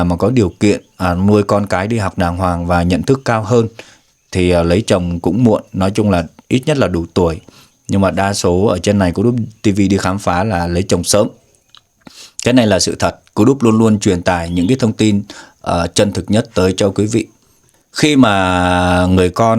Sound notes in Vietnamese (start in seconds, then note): 7.4 khịt mũi